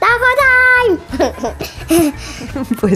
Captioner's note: laugh